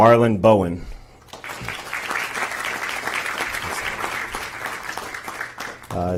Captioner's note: applause